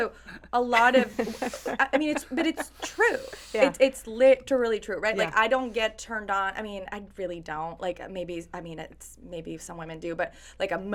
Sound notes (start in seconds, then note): 0.6 laughing; 0.7 laughs